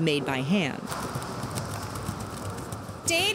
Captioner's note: sound of hands mashing the granola